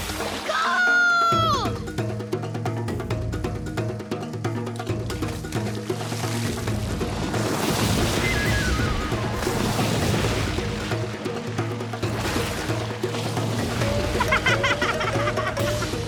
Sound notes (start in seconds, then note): 7.4 splashing; 13.7 laughing